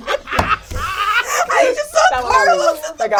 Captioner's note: all laugh